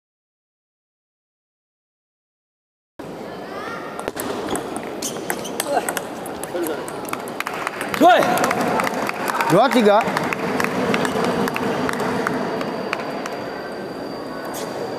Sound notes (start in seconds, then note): 7.4 applause